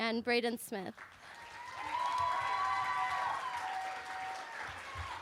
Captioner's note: cheering